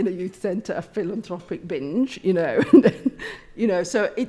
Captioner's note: laughs